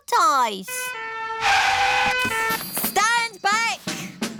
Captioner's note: siren blaring